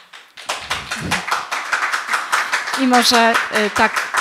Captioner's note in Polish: oklaski